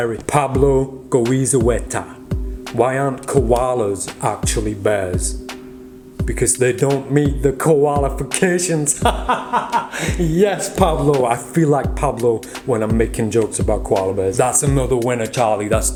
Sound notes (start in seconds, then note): 9.0 laughing